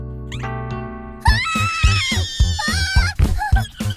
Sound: romantic music; both screaming; mice chattering

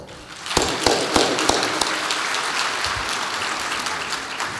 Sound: audience applauds

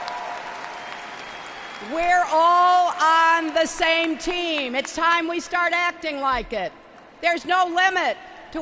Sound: applause

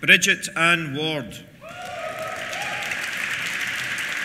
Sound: cheers; applause

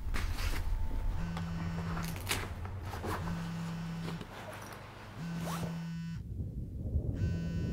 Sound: phone vibrates

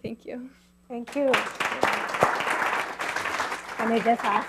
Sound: clapping

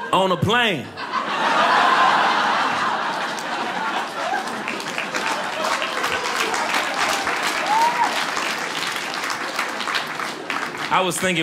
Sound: audience applauding

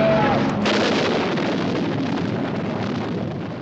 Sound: engine roaring; explodes

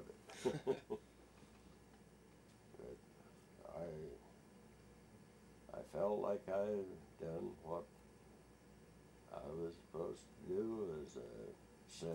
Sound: both laugh

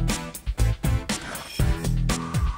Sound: none

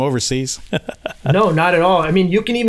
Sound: laughs

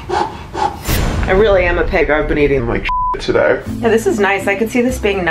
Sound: rapid breathing; beep

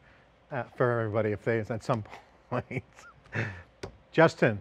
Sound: laughs

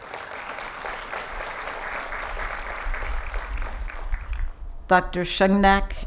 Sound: applause

